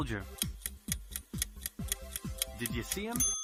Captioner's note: ticking